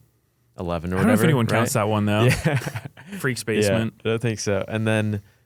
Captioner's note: laughs